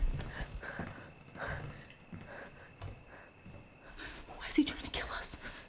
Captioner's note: Claire panting